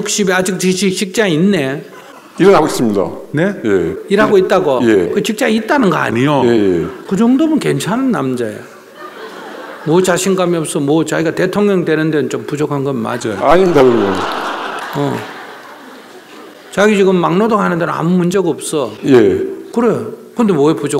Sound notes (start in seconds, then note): 8.7 audience Laughter; 16.7 audience Laughter